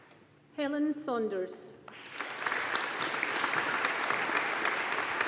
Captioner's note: audience applauding